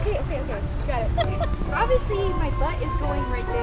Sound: laughs

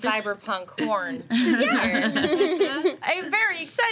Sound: group giggling

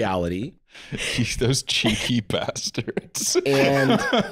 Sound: laughing

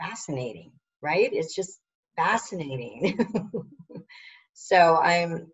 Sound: laughs

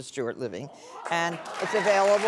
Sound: audience claps

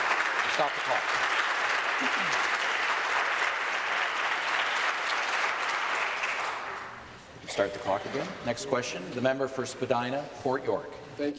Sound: applause

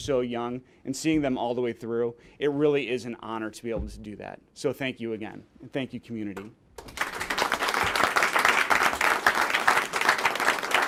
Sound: applause

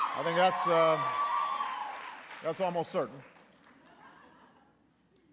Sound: applause

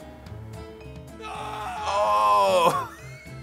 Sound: man screaming; laughing

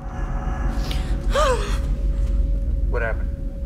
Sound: audible gasp

